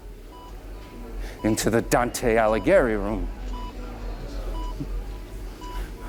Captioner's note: hospital sounds